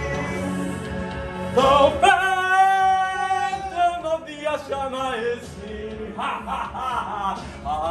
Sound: laugh

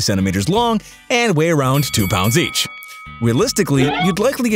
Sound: bell dings

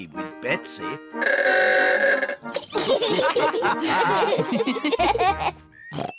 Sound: all giggle; horn bellows; snorts

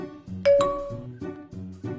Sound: Messenger pings

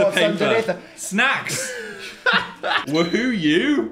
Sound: laughs

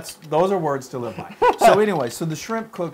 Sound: laugh

